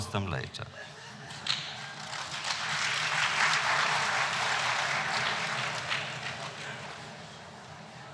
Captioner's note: applause